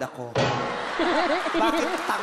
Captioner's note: crowd laughing